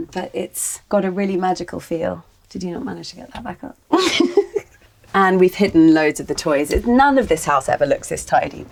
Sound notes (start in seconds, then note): 3.9 laughs